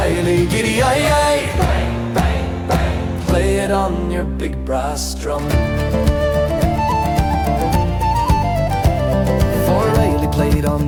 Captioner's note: bang, bang, bang